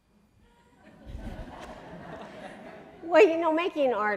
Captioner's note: audience laughing